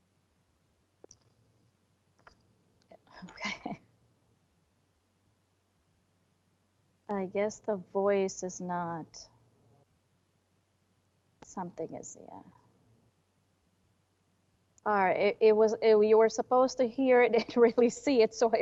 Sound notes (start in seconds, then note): 3.2 laughing